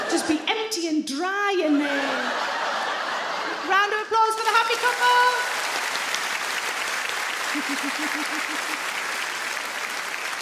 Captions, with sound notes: Just be empty and dry in there. (audience laugh) Round of applause for the happy couple. (audience clap)